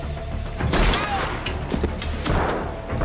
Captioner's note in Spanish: Disparo; Disparos